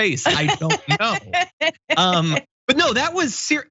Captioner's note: laugh